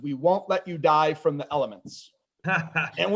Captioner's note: laughs